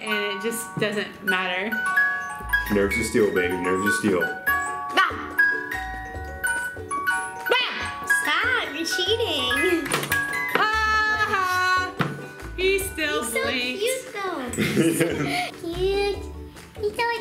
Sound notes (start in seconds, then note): 5.3 shouts